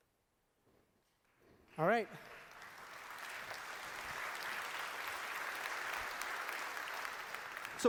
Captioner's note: applause